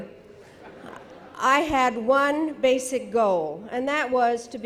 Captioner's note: audience laughing